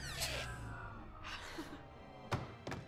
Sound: chuckles

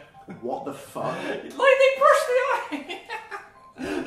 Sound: laughs

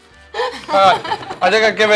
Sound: laughs

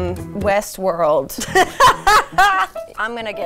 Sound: laughs

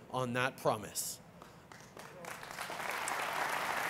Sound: applause

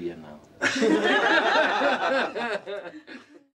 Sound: laughter

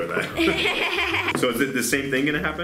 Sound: laughs

